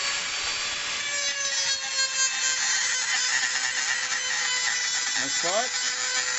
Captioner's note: metal grinding sounds